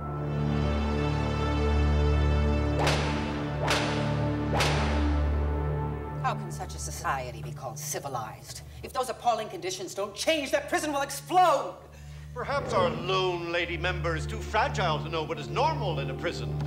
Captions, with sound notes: [sound of prisoners being struck] How can such a society be called civilized?! If those appalling conditions don't change, that prison will explode! Perhaps our lone lady member is too fragile to know what is normal in a prison.